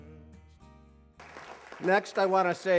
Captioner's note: applause